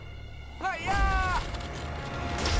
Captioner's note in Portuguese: grita